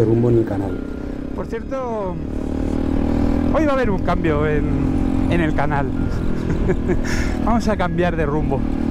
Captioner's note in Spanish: risas